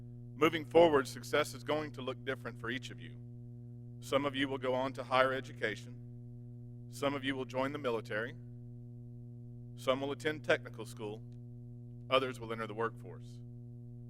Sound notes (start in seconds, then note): none